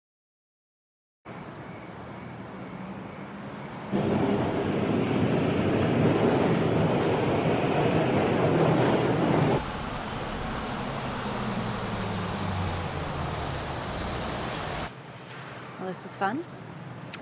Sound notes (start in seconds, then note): 4.4 train rattles